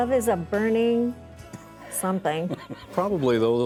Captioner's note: laughing